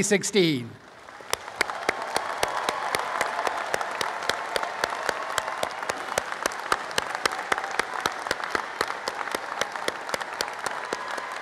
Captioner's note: applause and cheering